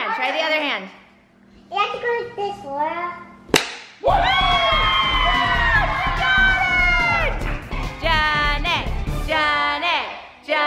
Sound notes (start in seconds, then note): 4.0 kids cheering